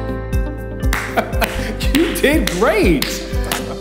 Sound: clapping

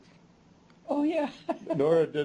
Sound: chuckles

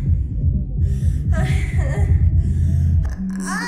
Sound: orgasm sounds

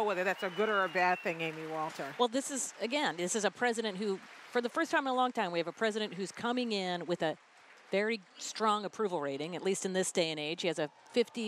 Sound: applause

